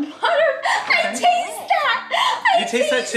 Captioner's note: laughing